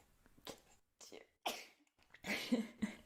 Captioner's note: sneezes; laughs